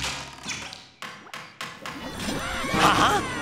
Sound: squeaking, hammering

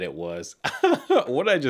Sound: laughs

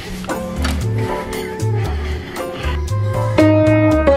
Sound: oven door opens; piano playing

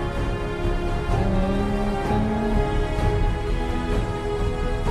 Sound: music swells; humming along

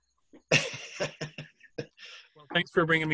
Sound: laughs

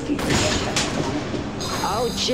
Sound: crash

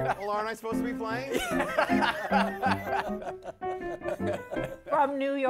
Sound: laughter

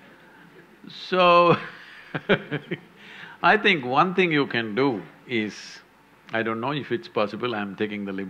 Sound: laughs

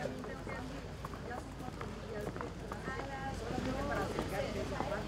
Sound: people chattering

